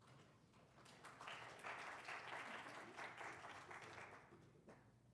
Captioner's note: applause